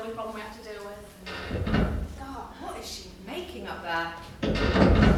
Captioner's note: loud creak; another bang